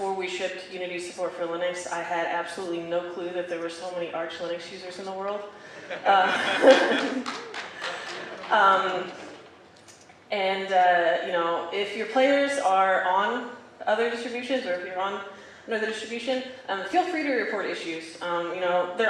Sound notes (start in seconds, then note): 6.3 audience laughing and clapping